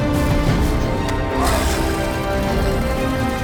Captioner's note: growling